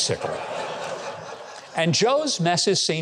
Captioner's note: audience laughing